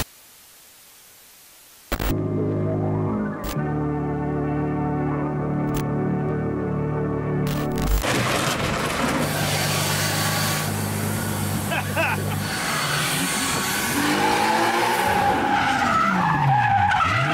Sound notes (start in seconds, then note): 14.2 engine revving; 15.7 tires screeching